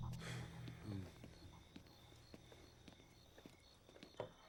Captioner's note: Lance sighs; insects buzzing